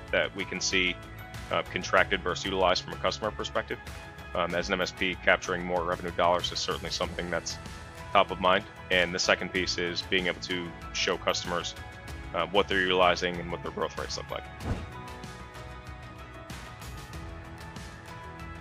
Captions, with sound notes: that we can see contracted versus utilized from a customer perspective, as an MSP capturing more revenue dollars is certainly something that's top of mind. And the second piece is being able to show customers what they're utilizing and what their growth rates look like. (screen whooshes) (gentle upbeat music)